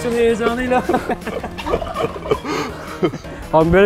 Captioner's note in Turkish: Gülüşmeler